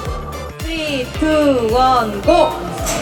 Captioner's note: heart beating